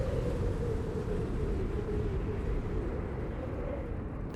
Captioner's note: wind blowing